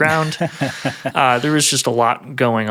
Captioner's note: laughing